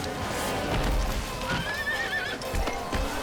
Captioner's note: horse neighs; horse thuds; kicks thumping